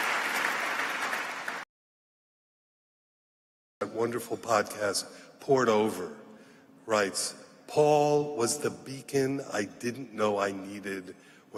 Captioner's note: applause